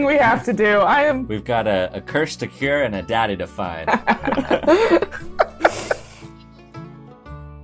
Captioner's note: laughter